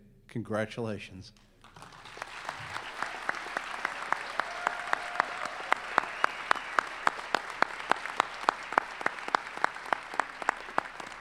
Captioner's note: applause